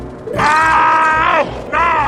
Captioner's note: Screaming in Sangheili